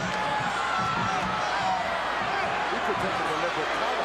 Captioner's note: audience shouting